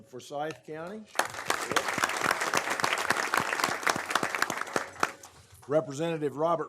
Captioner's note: applause